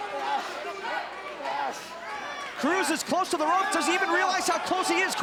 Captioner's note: crowd chatter